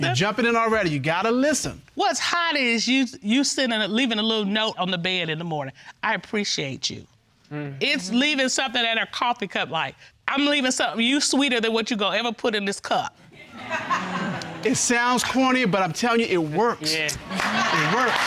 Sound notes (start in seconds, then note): 13.4 audience laughs